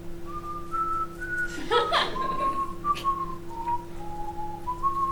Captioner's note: whistling